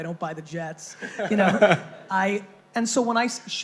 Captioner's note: laughing